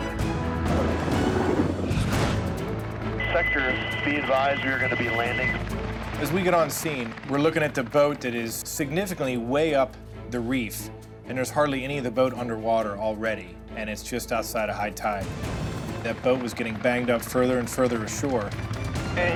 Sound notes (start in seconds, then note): 3.5 man On Radio